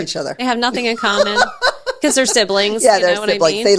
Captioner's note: laughs